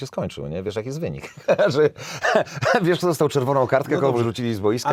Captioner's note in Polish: śmiech